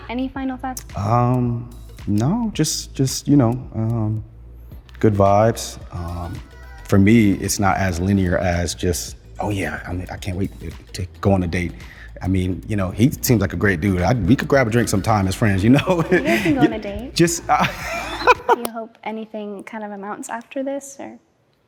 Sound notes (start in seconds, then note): 18.0 laughing